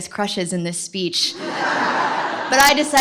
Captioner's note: laughter